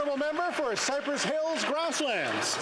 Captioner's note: some Applause